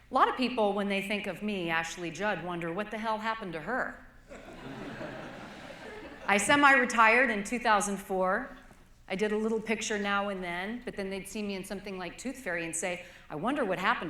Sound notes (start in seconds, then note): 4.2 laughter